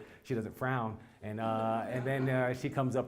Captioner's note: laugh